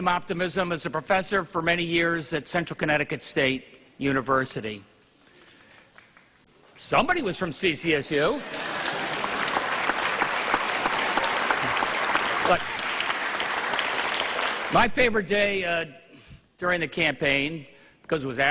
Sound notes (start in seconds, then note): 13.4 applause